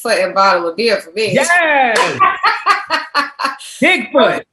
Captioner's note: laughter